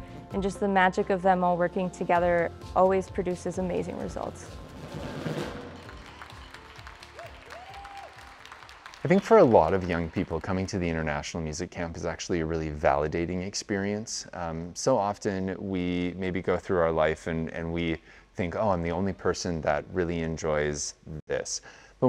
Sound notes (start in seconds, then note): 4.8 drums beating; 5.4 people clapping